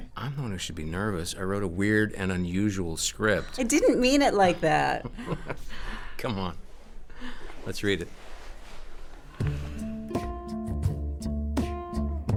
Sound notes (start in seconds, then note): 4.7 chuckling; 9.4 instrumental music